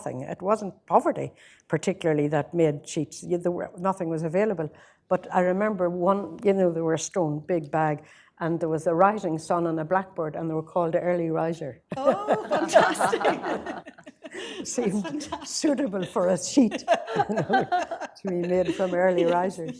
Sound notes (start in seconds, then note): 13.3 laughter